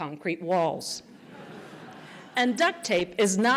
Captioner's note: laughter